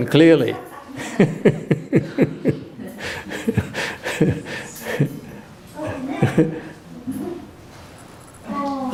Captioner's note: laughter